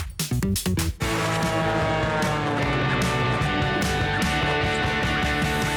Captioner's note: airplane engine whirs